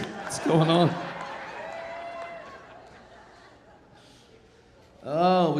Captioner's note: audience laughing